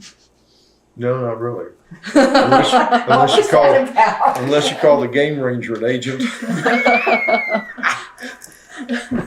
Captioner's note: laughter